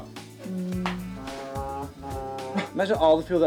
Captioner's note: imitating ship horn